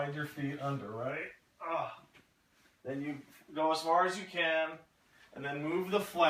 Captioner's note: effort